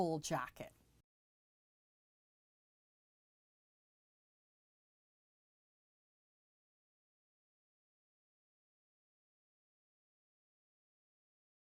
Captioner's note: no Sound Present